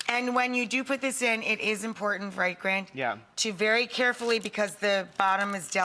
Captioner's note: none